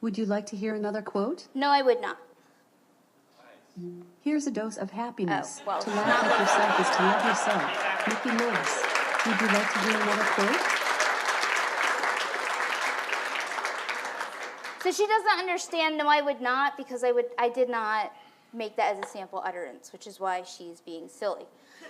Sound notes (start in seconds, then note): 5.6 audience laughs; 8.0 audience clapping